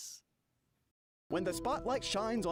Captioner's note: voiceover